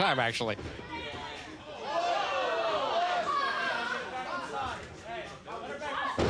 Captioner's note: crowd cheers